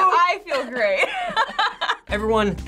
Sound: laughing

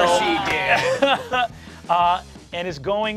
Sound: chuckles

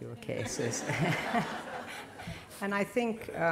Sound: laughter

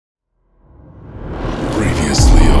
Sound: suspenseful whooshing

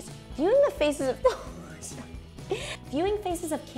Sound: laughing

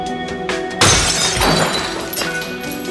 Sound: glass breaking

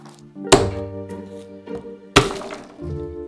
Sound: smashing garlic

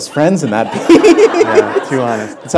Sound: laughter

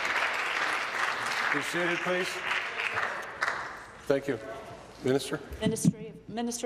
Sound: applause

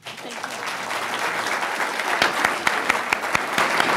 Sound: clapping

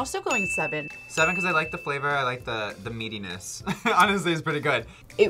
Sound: laughs

